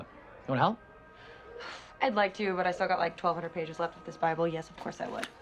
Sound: sighs

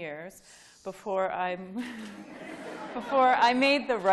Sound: laughing

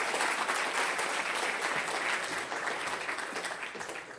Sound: applause

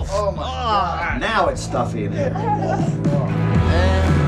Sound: giggles

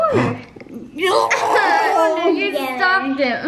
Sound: children laugh

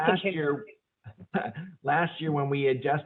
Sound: laughing

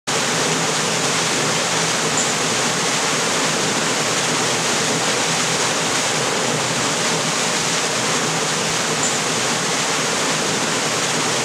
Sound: rushing water

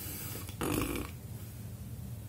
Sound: blows raspberry

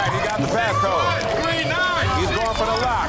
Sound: other contestants shouting

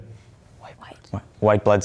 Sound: whispering

